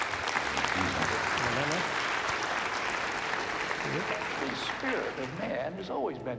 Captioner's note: applause